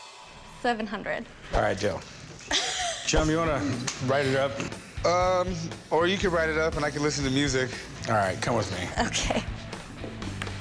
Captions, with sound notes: -Seven hundred. -All right, deal. -[laughs] -Chum, you wanna write it up? Um, or you can write it up and I can listen to music. -All right, come with me. -Okay.